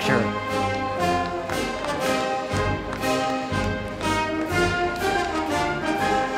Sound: band music; crowd clapping

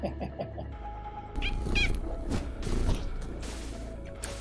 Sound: laughs; cats meow and purr

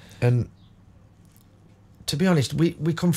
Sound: silence

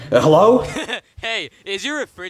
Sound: person laughing

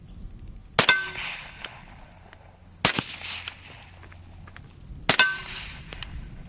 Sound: gun shots

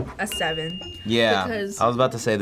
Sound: bell dinging

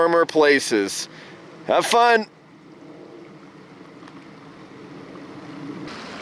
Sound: plane rumbling

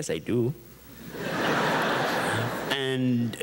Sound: audience chuckles

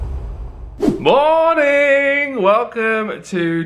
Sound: screen wipe whooshes

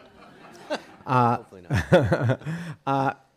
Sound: audience chuckles; chuckles

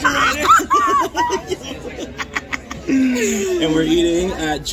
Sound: laughs

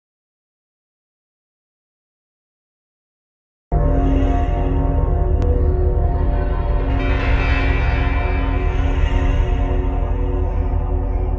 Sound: sound of horror invasion

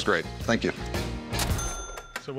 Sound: cash register chiming

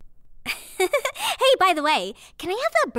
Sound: giggles

